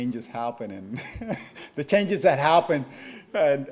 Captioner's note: chuckles